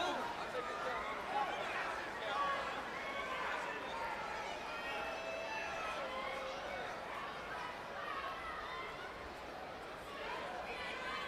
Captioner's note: crowd chatter